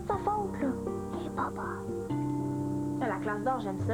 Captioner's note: Chuchotant